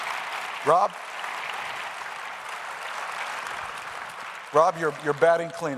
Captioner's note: applause